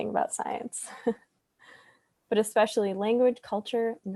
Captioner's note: laughs